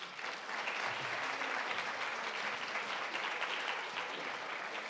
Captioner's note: audience applauding